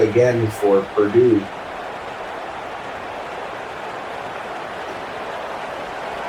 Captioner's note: crowd Noises